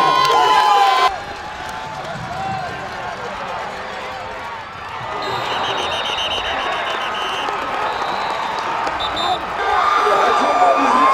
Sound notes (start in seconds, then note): 5.1 whistle blowing; 9.7 celebratory shouts